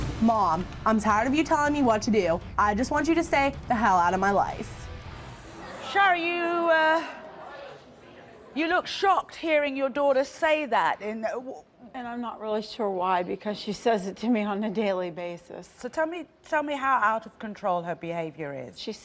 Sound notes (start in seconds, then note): 5.8 murmuring